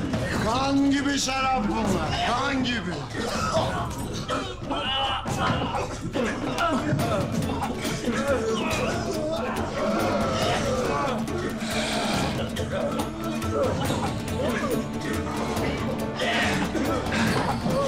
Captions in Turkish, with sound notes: Kan gibi şarap bunlar, kan gibi! (Boğulma sesleri) (Nefes sesi) (Boğulma sesleri) (Nefes sesi)